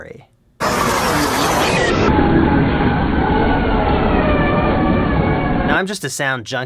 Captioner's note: vroom